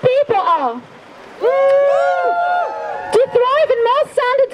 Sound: crowd cheers

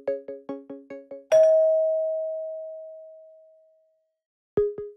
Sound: bell dings; inquisitive electronic music

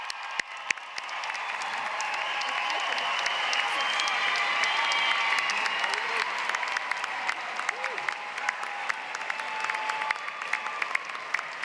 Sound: applause

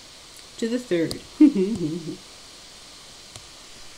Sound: laughs

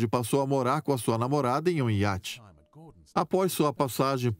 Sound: voiceover

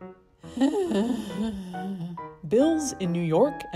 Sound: sighs

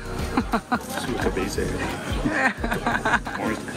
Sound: in Portuguese; laughs; in Portuguese

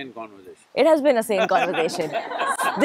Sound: laughter; Sadhguru laughs

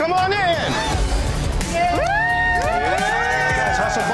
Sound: cheers

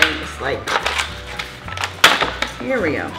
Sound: plastic ripping

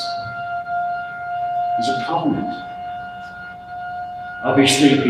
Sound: siren

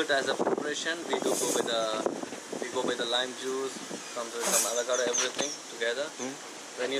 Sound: dishes clink

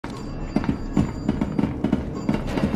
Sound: elevator Chimes

